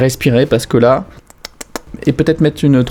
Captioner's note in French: bruit de bouche